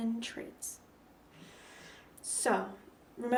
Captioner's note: breath